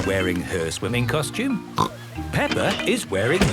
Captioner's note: snorts